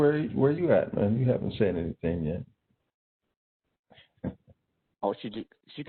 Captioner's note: laughing